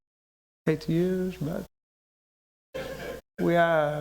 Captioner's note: laughter